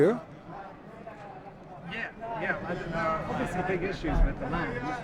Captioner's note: voiceover